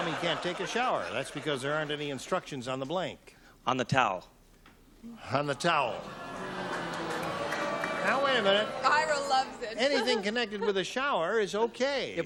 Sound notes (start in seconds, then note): 5.6 booing